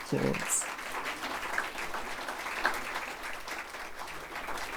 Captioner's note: audience applauding